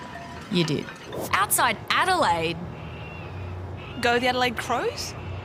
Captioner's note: faint squawking